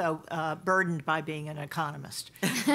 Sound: laughter

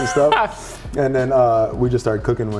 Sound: laughs

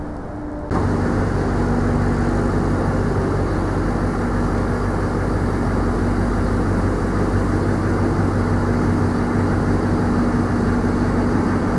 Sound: truck backing up

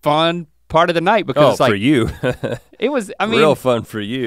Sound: chuckles

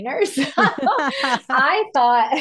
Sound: laughs

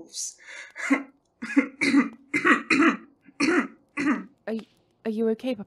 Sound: Orion laughs, then coughs

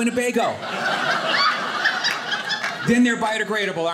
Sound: audience laughing

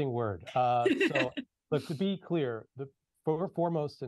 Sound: laughs

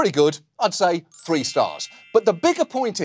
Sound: chimes play

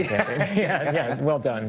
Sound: laughing

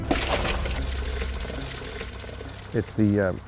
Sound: hot sauce pouring

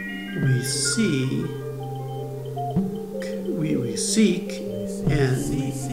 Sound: echoing voices: We seek

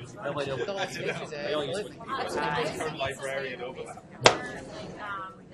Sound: voiceover; mixed chatter

